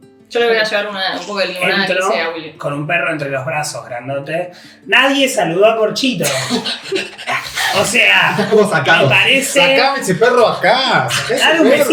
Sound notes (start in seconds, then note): 6.9 dog panting